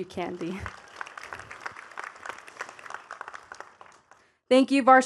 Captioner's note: attendees clapping